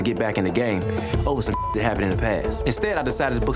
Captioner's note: beep